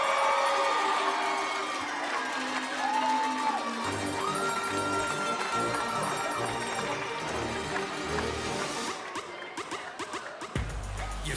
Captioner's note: cheers and applause